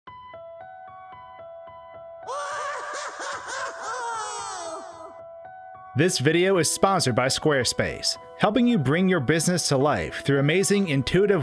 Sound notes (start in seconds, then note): 2.2 Luigi screaming